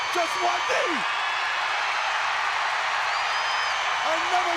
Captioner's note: audience cheers